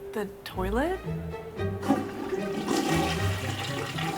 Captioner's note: toilet flushes